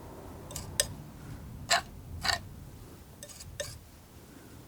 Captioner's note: tapping